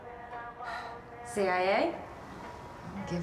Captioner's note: sighs